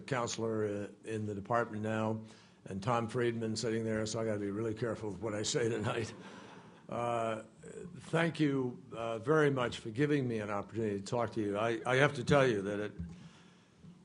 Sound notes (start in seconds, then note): 5.6 laughter